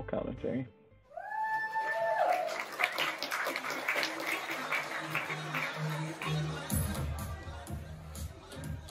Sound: appause

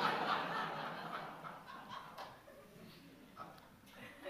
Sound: audience laughing

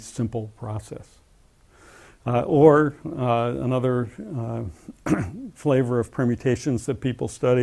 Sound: cough

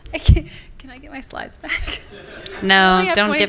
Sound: laughs

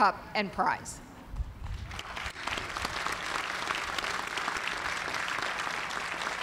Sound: applause

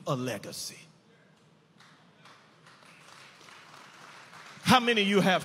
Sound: audience applauding

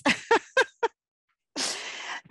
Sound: laughter

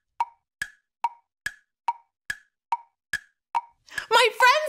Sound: clock ticking

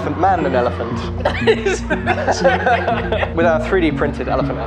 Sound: laughing

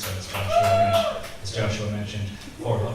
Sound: select audience members cheer

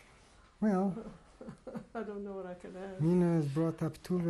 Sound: laughs

